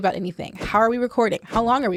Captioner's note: whooshing